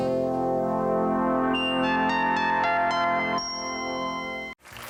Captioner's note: ambient sound effect